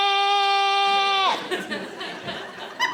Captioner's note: audience laughing